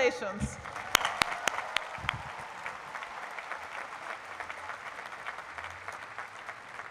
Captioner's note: applause